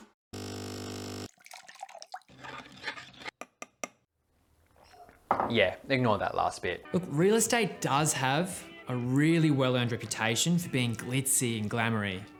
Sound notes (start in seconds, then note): 0.0 machine buzzing; 1.3 liquid sloshing; 1.9 cup tinkling; 2.2 spoon scraping